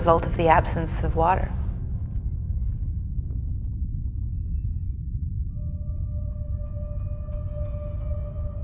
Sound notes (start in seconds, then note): 4.4 wind blowing; 8.0 majestic music playing